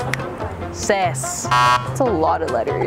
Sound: buzzer beeping

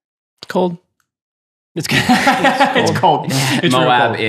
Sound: laughs happily

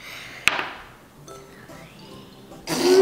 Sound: thud

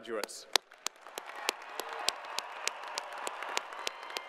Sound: crowd applauding

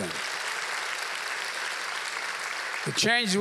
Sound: applause

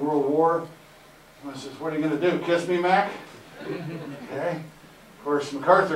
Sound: audience Laughter

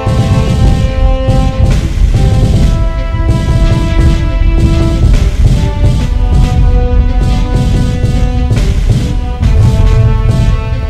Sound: instrumental music; explosions

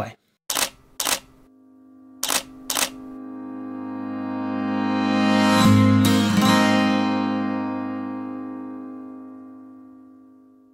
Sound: camera shutter clicks and music swells

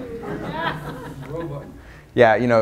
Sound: audience laughs

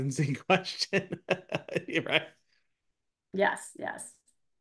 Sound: laughing

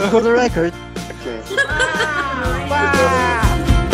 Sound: more laughters

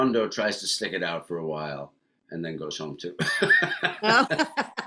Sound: laughs

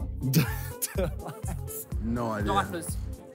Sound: Simon laughs

